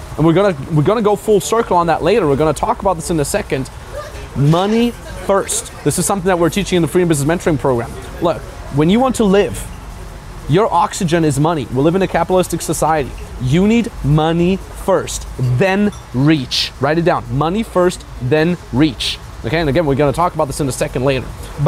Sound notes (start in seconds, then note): 3.5 people chattering